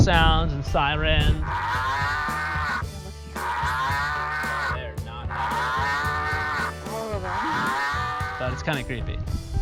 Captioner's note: cows Mooing